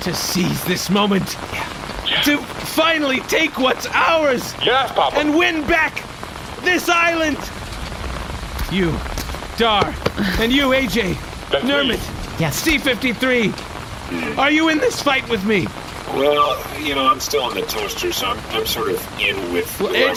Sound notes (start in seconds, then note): 0.0 shouting; 11.7 happily; 16.5 hesitantly